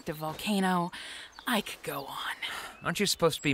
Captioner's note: sighs